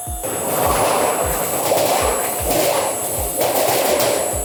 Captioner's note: machine whirring